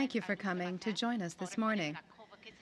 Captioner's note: speaking French